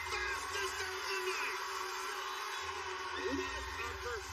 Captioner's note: cheers and applause